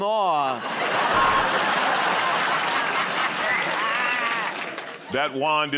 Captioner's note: laughter